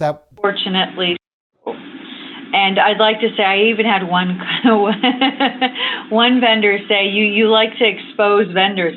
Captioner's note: laughter